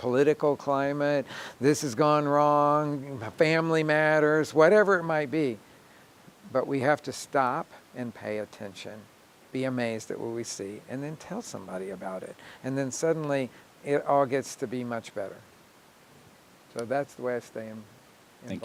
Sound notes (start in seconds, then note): none